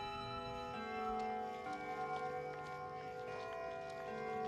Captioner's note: city clock chiming